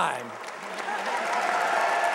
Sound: applause

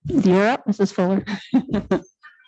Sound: laughs

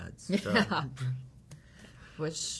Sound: chuckling

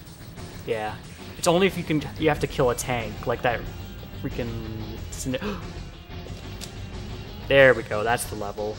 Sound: gasp

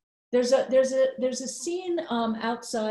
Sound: none

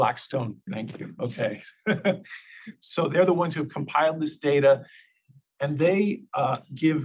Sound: laugh

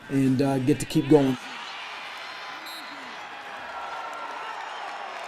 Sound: cheering

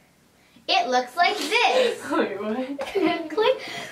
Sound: laughing

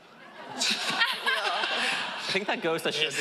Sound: laughing

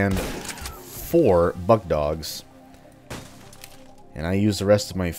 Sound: smash

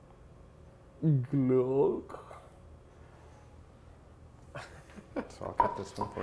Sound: makes glugging sounds

